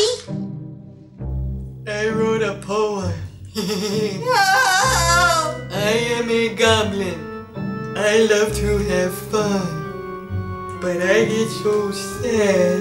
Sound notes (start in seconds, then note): 3.4 groan; 3.5 laughing